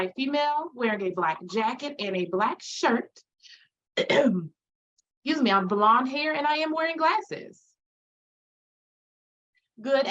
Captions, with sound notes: am a white female wearing a black jacket and a black shirt. [clears throat] Excuse me. I'm blonde hair, and I am wearing glasses.